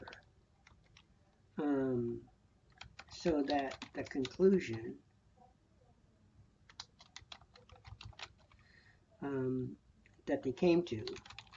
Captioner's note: typing